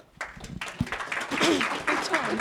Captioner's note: audience applauds